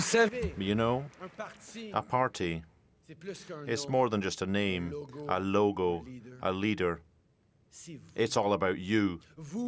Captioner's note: cheering and applause